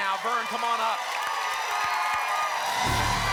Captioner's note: applause and cheering cont